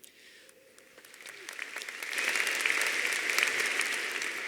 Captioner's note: audience applauding